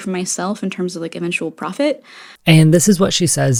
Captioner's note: inhale